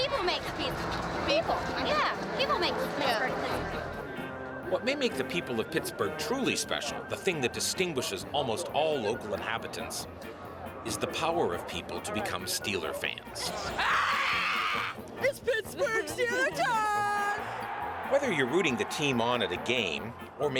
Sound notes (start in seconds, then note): 13.9 growling